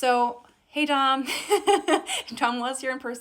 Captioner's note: laughs